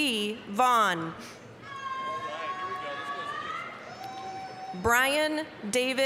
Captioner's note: applause, cheering